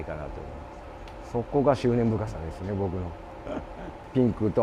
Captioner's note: laugh